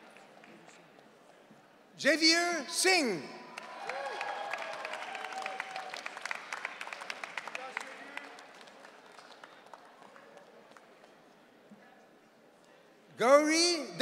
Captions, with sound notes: Junior Singh. (audience cheering) Gori Veta.